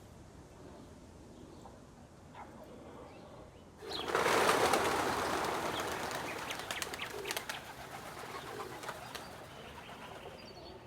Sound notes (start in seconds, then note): 3.8 wings fluttering